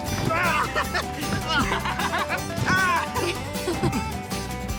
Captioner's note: laughter